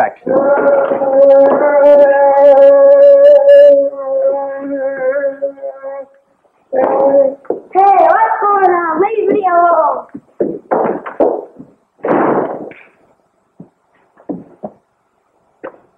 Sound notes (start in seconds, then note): 0.2 silly airplane noises; 12.0 slam!